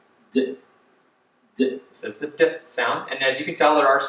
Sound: speaker icon making D sound

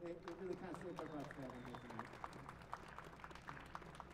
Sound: applause

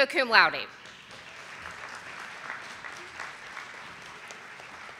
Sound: audience applauding

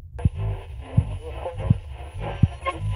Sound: radio static

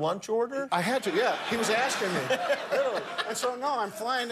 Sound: laughter

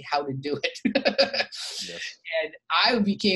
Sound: laughing

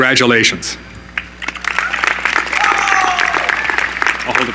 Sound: applause

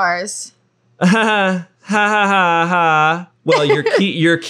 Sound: fake laughing

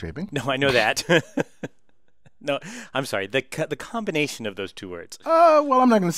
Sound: laugh

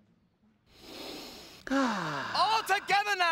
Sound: sighs

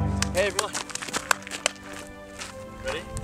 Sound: clapping

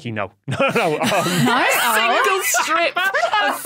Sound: laughs uproariously

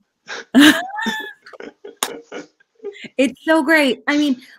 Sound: laughing

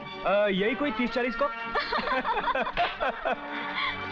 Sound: laughs

